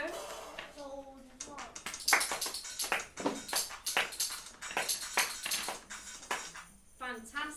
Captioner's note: children clap and play